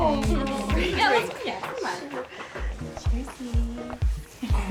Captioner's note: girls chattering